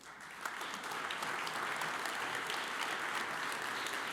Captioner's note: audience applauds